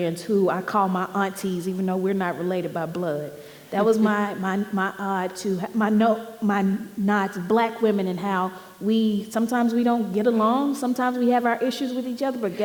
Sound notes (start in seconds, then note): none